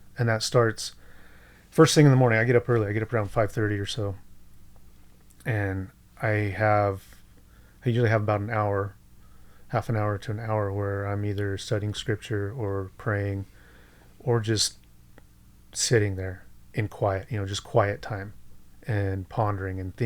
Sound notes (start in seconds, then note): none